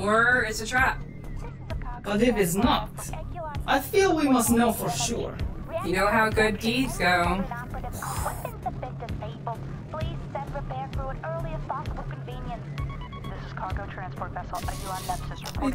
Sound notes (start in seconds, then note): 7.5 imitates explosion; 12.8 suspenseful synth music